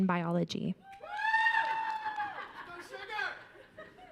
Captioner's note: audience cheering